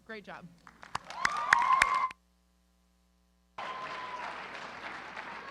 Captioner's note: applause